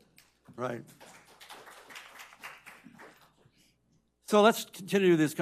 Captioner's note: audience applauding